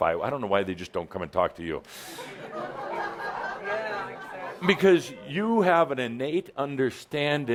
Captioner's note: laughter